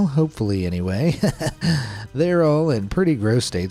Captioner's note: laughs